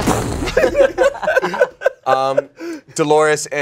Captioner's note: everyone laughs